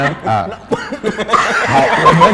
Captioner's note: 咳嗽